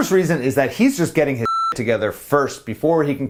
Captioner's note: beep